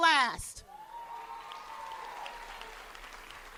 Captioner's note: cheers and applause